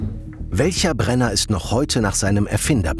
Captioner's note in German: none